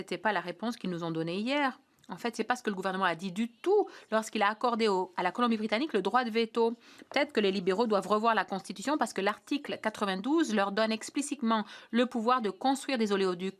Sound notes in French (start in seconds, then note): 1.0 voix de l'interprète